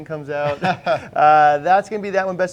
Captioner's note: laughing